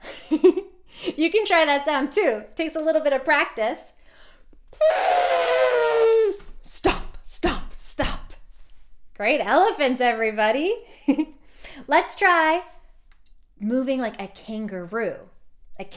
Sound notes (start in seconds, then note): 0.1 laughing; 4.8 imitating elephant trumpeting